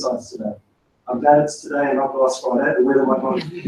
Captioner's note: laugh